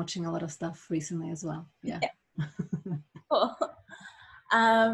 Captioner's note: laughs